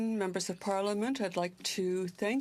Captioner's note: speaking french